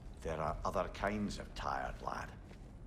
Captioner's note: none